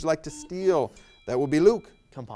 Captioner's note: buzzer buzzes